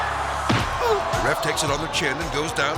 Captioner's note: hit thuds; ref grunts